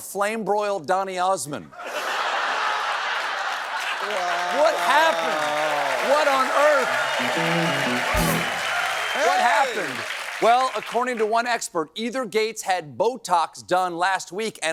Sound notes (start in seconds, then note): 1.7 laughter